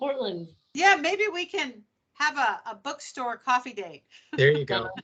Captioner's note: laughing